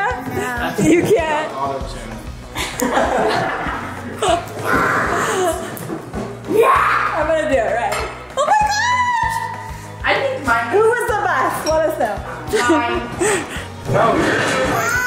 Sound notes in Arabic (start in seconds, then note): 2.5 الكل يضحك